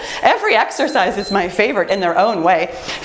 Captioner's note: timer beeps